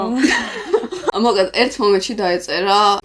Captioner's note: laugh